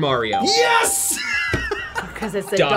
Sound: buzzer barks; laughs

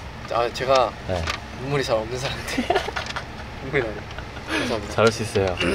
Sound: almost crying

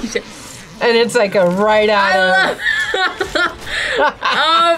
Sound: laughs

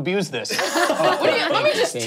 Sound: laughing

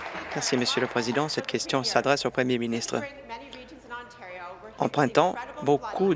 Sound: applause

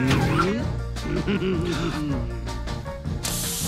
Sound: chuckling

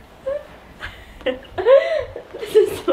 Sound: laughing

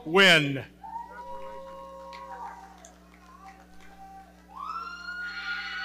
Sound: audience cheering

